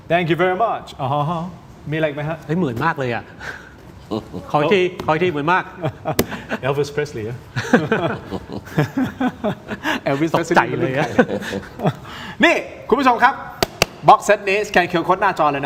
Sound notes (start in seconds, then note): 9.4 laughs